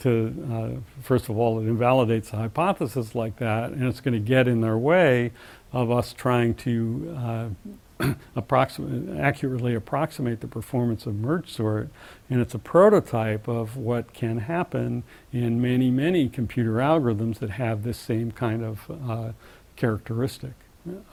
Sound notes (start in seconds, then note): 8.0 cough